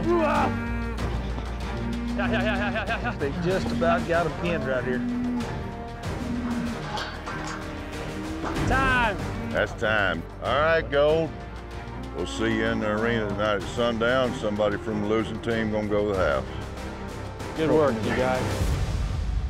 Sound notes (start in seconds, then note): 5.2 cattle mooing